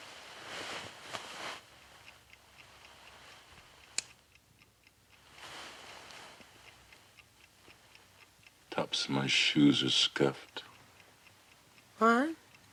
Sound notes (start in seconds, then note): 0.0 sheets rustling; 3.8 light switch clicks